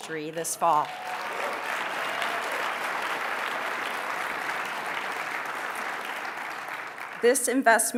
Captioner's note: applause